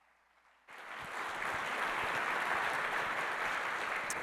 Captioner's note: applause